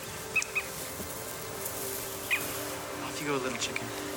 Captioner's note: bird chirping